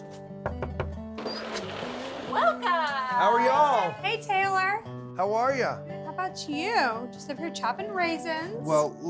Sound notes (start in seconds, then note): 0.4 knocking on door; 1.2 door opens